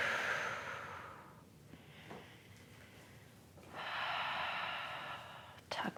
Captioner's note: inhales and exhales